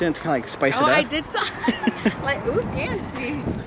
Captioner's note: laughs